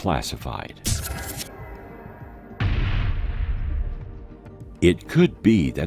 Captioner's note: electrical static; explosion booms